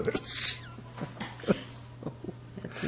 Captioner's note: laughing